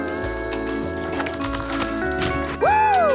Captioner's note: sawing; tree falling with a thud